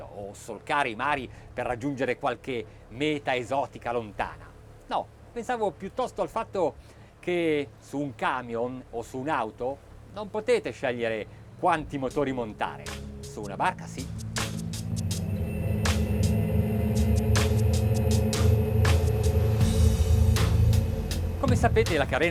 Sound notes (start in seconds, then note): 15.7 engines roaring; 18.5 confident rock music